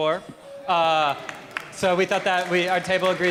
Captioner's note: applause